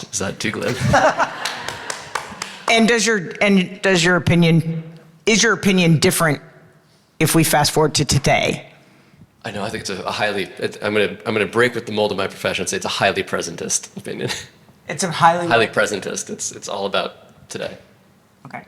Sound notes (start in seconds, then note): 0.6 applauding; 0.6 audience laughing